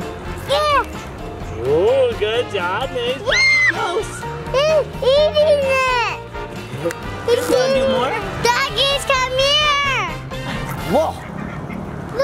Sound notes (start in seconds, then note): 3.3 screams